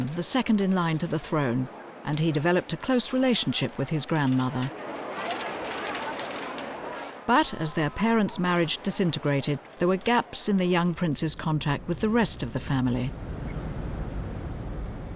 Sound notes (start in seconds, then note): 5.7 cameras clicking